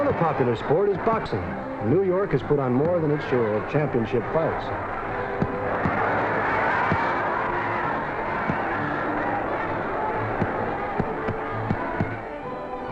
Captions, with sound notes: Another popular sport is boxing. New York has put on more than its share of championship fights. (thudding) (crowd cheering)